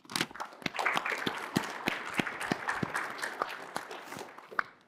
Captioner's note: applause